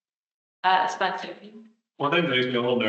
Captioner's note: attendee speaking softly